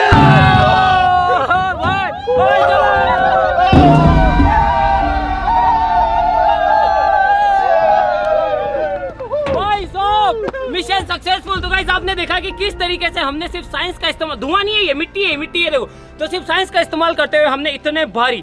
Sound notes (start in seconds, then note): 0.0 drum explosion; 2.4 cheering